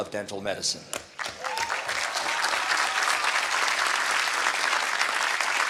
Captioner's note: applause